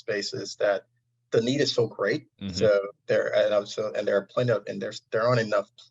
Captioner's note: audio distortion